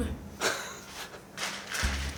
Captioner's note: chuckles